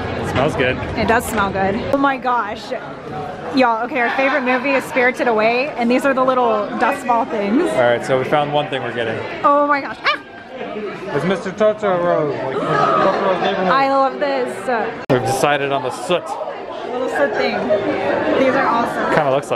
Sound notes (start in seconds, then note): 10.0 yelps; 13.5 gasps